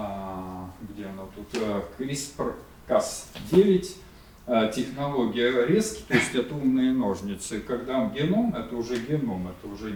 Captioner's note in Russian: откашливается